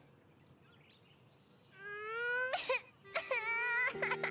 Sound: crying

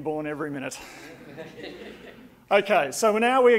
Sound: audience laughing

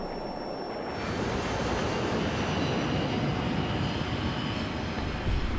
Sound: plane passing

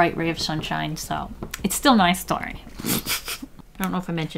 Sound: laughs

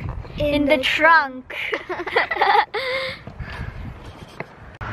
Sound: kids laugh

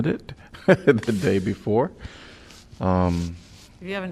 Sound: laughter

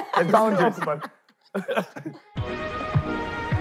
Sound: laughing; upbeat music

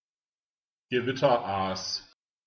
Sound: fast Pronunciation

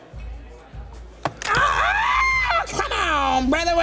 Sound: screams in agony

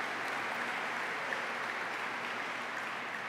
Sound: applause

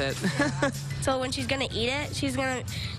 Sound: laughte

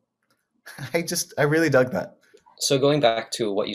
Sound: chuckles

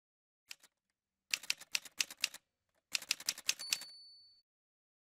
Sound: typewriter sounds

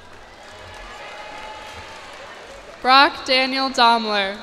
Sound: cheers and applause

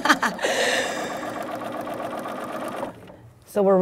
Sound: laughing; sound of sewing machine

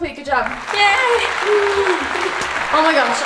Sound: audience applauding

